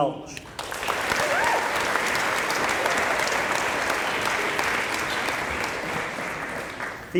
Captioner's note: applause